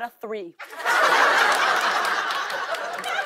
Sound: laughter

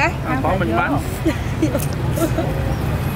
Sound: laughing

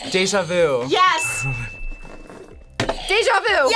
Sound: audio dings

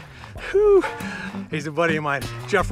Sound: sighs

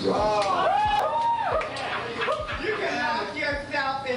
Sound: crowd cheering

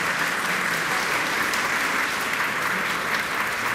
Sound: applause

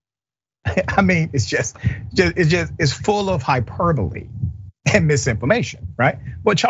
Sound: laugh

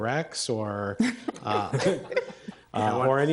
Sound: trustees laugh

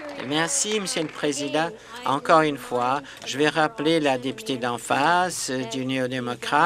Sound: applause

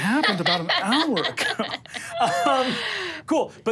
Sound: laughs

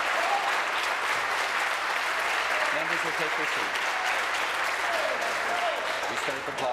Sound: applause

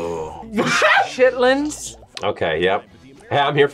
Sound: laughs

